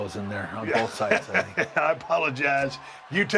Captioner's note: laugh